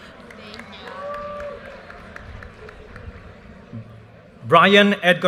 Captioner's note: audience cheers and applause